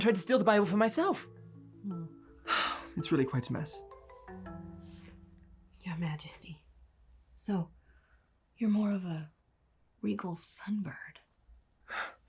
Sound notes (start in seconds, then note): 2.4 sighs